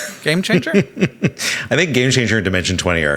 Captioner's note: Sam chuckling